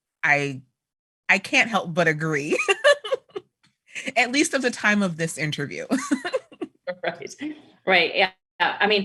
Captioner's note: laughter